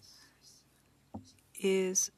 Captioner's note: speaking French